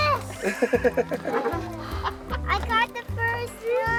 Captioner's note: laughing